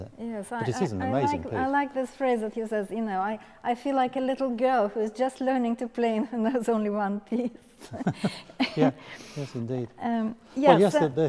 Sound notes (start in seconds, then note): 7.8 laughing